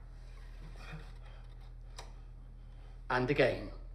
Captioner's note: gasping